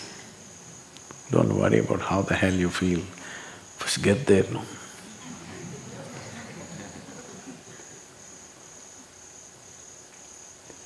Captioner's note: few laugh